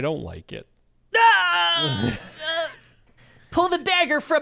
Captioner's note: groans